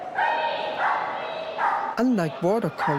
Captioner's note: dog barking